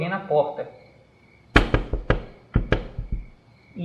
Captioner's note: toc toc toc toc